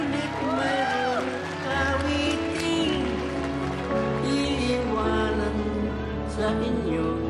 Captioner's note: applauding, cheering